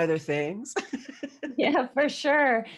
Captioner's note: chuckle